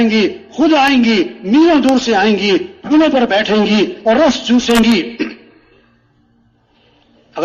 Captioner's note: गला साफ करते हुए